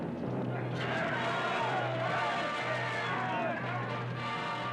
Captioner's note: yelling